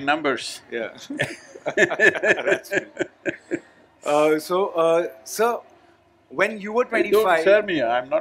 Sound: both laugh

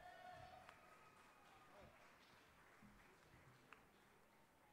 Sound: audience applauding

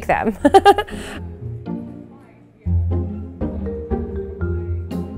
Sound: laughs

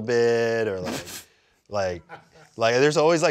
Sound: laughs

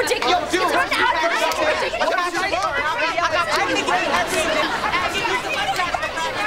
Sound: arguing

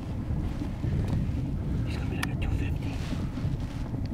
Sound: whispering

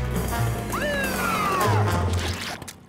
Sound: siren wailing

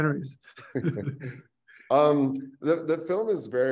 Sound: chuckle

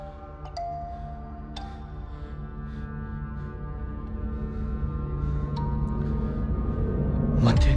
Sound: tensed up breaths

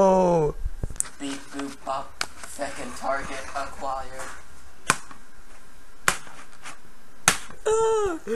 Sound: stomp sounds

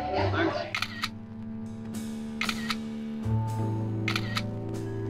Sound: camera snapping

